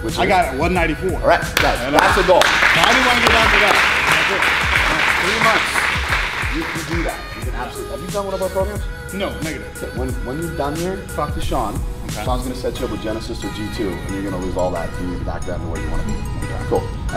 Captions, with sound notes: - Which is? - I got out 194. - Alright, (clapping strongly) guys, that's a goal. (people clapping) - You know, now I wanna get down to that, I do. - Now in three months, you can do that. - Even honestly, have you done one of our programs? - No, negative. - When you're done here, talk to Shawn, Shawn's gonna set you up with Genesis or G2, and you're gonna lose all that, and you can be back down to where you wanna be. - Okay. - Cool.